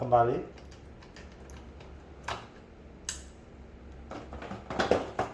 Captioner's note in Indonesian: suara damper dipasang